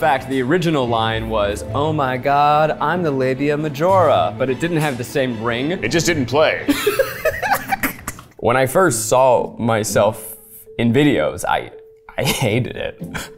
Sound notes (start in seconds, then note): 6.6 laughing